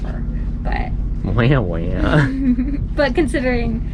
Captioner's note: both giggle